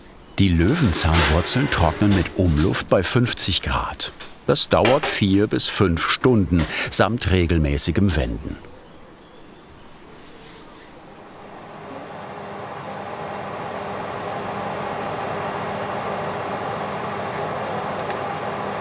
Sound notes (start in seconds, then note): 12.8 fan noise from the oven